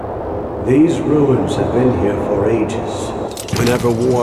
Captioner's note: echoing